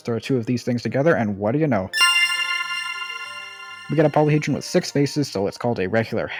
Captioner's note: ding